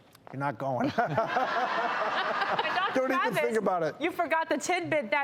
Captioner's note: laughs